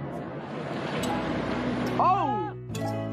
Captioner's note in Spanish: grita